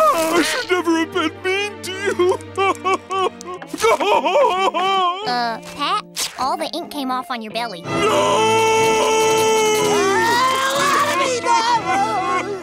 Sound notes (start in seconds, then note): 3.8 crying